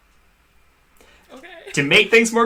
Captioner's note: laughs